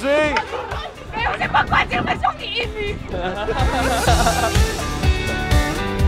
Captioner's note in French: rires